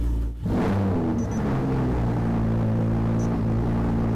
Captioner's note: engine revving